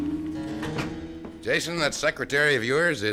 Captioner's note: door closes